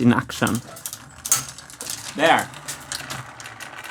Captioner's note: metallic click